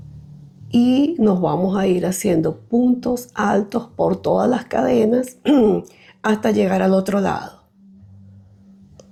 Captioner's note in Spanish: carraspeo